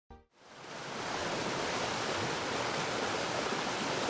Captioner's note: water rushing